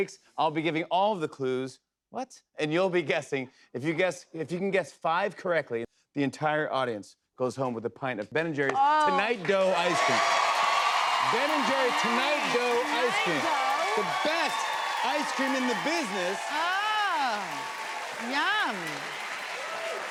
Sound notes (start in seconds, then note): 9.9 cheers and applause